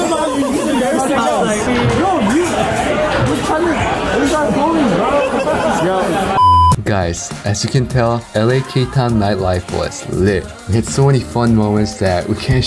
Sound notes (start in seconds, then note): 3.7 laughing; 6.4 beep